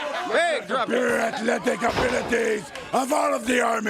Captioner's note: crowd cheering